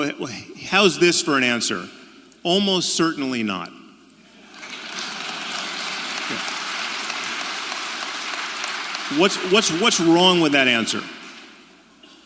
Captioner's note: applaud